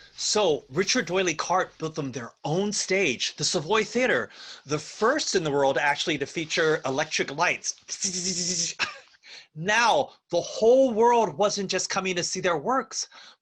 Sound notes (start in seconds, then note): 8.0 verbal buzzing sound